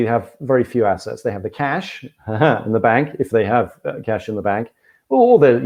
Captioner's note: laughs